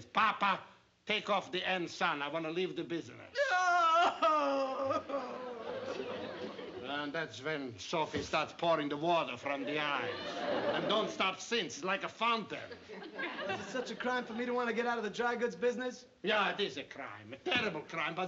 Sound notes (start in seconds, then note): 3.3 aunt sophie crying